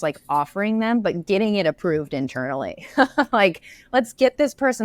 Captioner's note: laughs